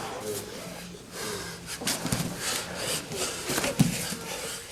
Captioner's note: heavy breathing; soft thudding